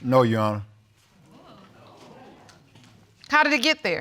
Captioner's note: audience exclaiming